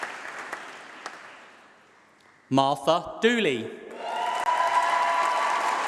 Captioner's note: applause